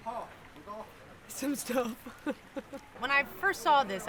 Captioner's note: laughs